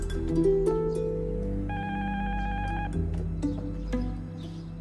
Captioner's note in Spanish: Suena el timbre